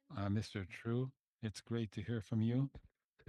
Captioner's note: speaking French